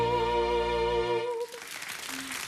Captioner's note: audience applauding